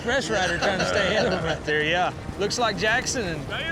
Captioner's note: laughing